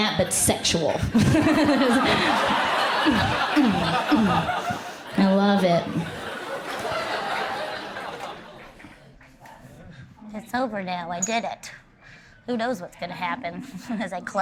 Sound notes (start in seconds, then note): 0.8 crowd laughs; 7.9 crowd laughs fade